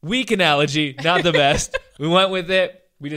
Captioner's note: laughs